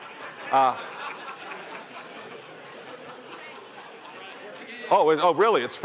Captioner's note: laughter